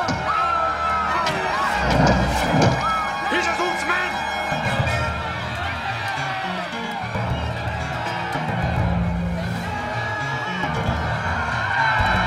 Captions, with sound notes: (people screaming) (arrows striking) - Hissah Zul's men!